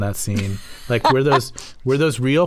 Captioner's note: laughter